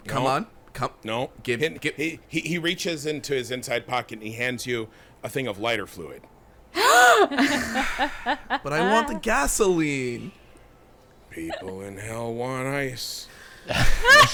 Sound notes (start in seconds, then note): 6.7 gasping; 6.8 laughing